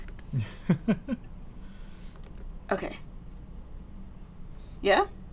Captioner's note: laughs